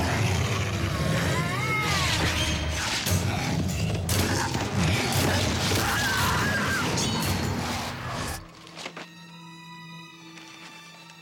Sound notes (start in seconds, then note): 0.0 howling; 5.2 screaming